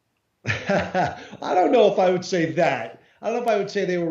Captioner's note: laughs